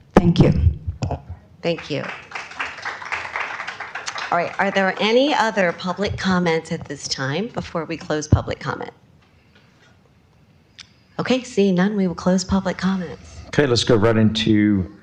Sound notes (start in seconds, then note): 5.5 applause